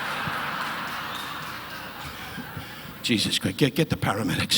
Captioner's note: audience laughing